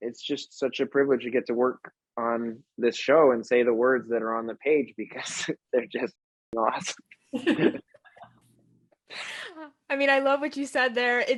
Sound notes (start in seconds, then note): 5.2 chuckles; 7.4 panel laughing